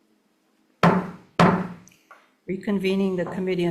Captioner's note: gavel pounding